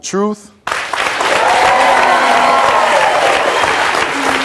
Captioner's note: audience cheering